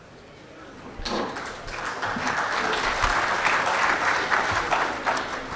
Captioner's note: audience clapping